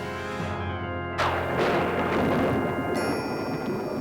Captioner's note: thunder rumbles